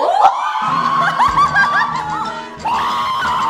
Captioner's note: whiz